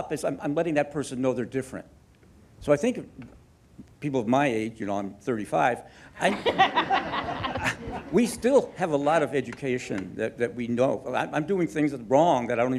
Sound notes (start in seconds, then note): 6.2 audience laughing